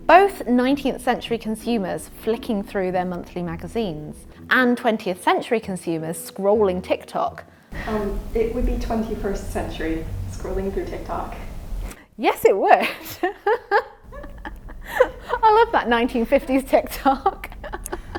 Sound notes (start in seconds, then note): 13.0 laughing; 17.9 lighthearted music